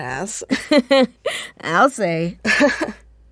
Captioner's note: laughing; laughs, then grows serious